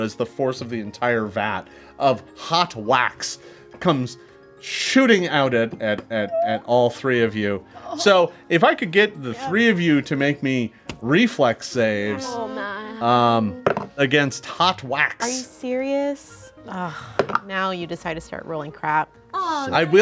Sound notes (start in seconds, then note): 12.3 group moans; 13.5 dice roll; 16.9 dice roll